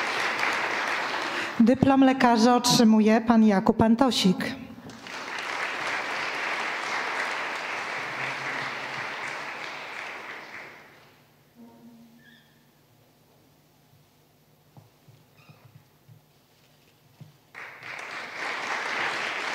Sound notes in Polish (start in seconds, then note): 6.7 oklaski